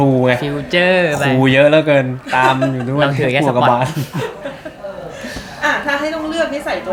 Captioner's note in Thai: เสียงหัวเราะ